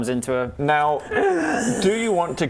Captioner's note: wheeze